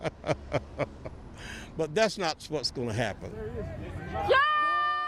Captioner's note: laughter